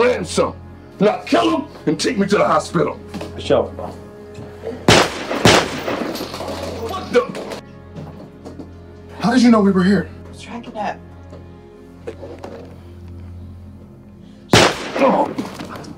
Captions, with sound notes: Now kill 'em, and take me to the hospital! - For sure, boss. (gun firing) What the? - How did you know we were here? - Tracking app. (gun fires)